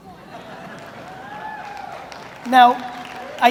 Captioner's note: audience laughs; audience applauds